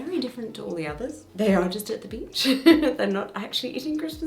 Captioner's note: giggles